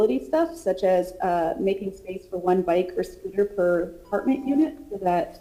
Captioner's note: ~distortion~